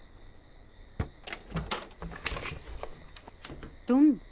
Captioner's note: Door opens